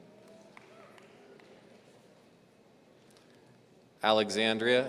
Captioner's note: audience applauds